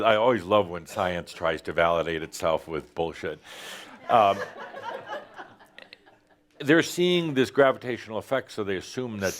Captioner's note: laughter